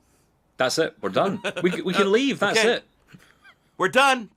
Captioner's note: laughs